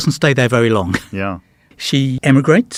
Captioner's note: chuckles